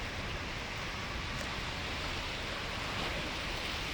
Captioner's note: water rushing